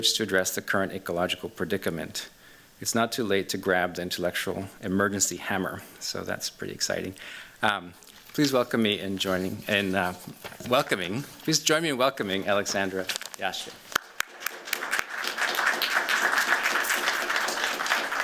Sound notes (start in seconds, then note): 13.9 applause